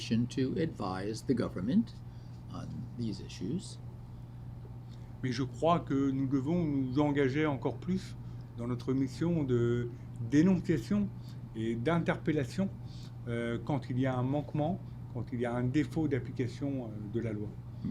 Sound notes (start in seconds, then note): 5.2 speaking French